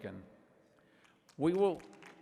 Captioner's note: applause